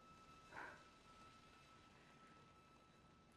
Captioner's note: Joan sighing